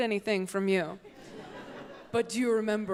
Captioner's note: audience laughs